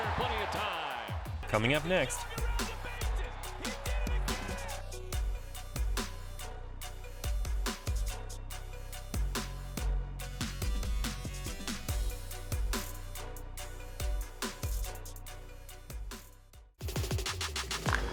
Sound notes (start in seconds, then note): 1.6 voiceover